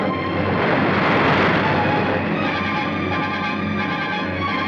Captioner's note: waves crashing